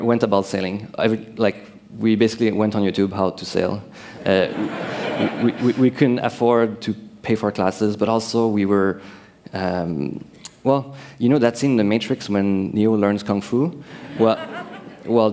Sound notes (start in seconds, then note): 4.4 laughter